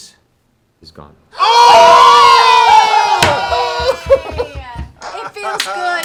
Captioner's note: cheering